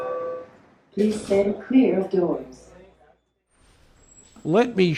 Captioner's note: recorded voice